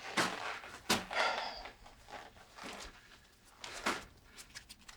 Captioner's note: Anderson sighing